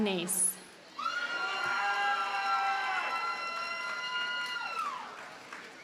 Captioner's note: audience cheers and applauds